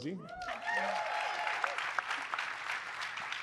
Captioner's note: applause